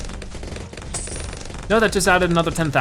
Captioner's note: coins jingling